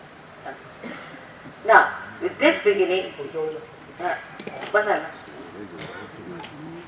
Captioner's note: Shri Mataji talks aside in Hindi